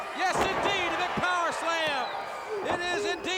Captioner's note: crowd cheering